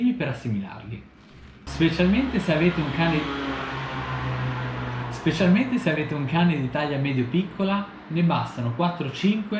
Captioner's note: passing scooter